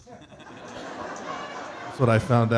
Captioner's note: audience laughing